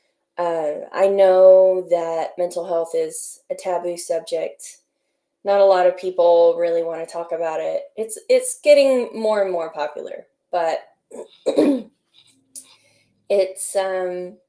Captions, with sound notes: I know that mental health is a taboo subject. Not a lot of people really want to talk about it. But, it's-- it's getting more and more popular. But *Clears throat* It's um...